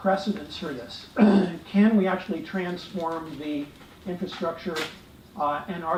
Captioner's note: cough